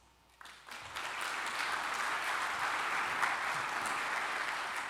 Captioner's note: applause